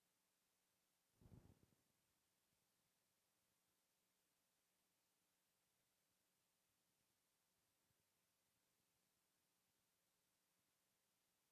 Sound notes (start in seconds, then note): none